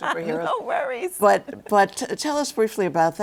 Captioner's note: laughs